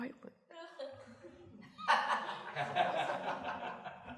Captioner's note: laughter